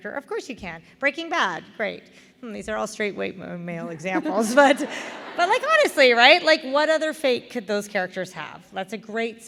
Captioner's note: laughter